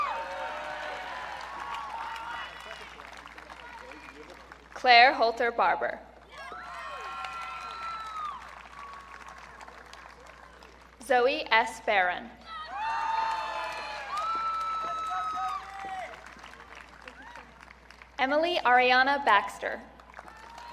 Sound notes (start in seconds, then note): 0.0 audience cheering; 6.3 audience cheering; 12.5 audience cheering; 20.2 audience cheering